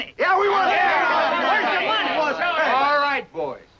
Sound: crowd yelling

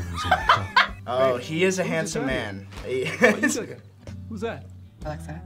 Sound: laughs

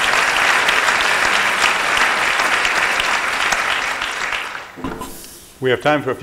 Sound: applause

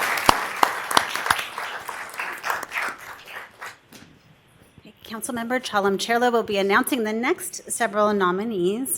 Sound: applause

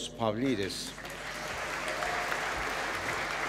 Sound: applause

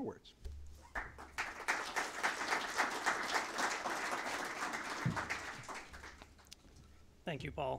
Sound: applause

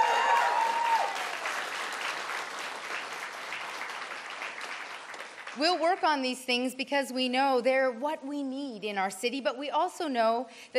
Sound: cheers and Applause

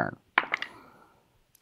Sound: dice clattering

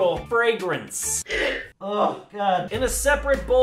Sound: gagging

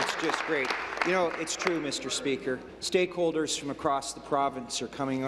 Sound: applause

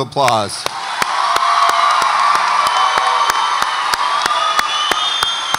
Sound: audience applauds and cheers

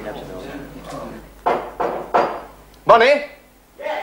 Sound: knock at door

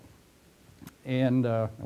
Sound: pause

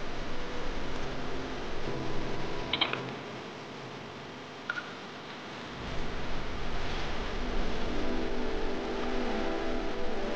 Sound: water, breathing

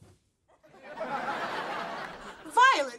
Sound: laughing

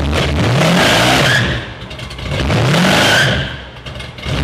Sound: car screeches

